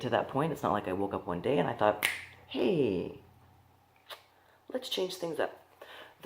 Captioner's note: snap